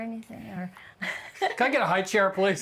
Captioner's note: laughs